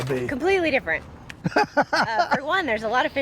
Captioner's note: laughing